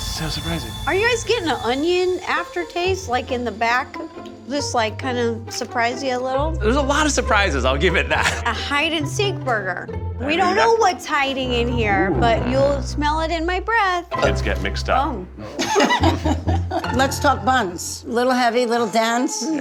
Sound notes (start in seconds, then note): 15.3 belches